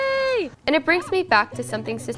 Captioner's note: gasps